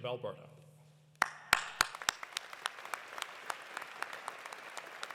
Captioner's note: audience applauding